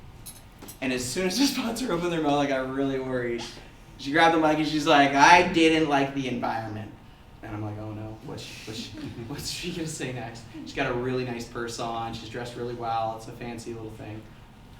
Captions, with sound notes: and as soon as the sponsor opened their mouth I got really worred. She grabbed the mic and she was like: I didn't like the environment. and I was like... oh no, what's she going to say next? [audience laughter] She got a really nice purse on, she's dressed really well it's a fancy little thing.